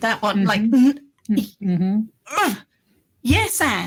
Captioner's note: grunting